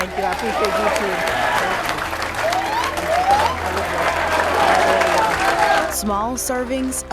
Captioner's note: students clapping; students cheering